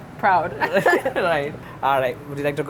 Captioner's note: both laugh